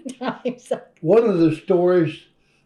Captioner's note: laughs